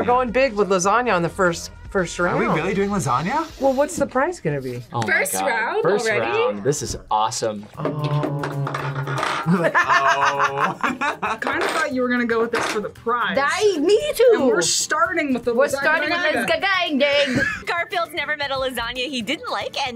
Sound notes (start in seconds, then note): 8.7 laughs